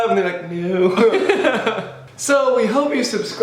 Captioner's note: both laugh